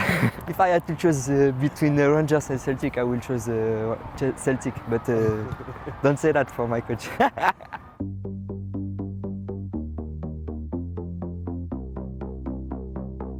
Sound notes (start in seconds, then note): 7.0 laughs; 8.0 intense music